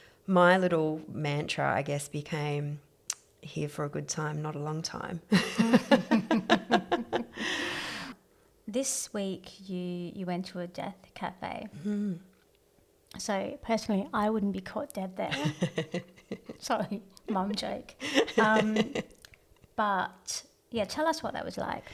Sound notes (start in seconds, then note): 5.4 laughs; 18.0 laughs